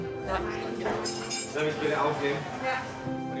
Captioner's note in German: Undeutliche Stimmen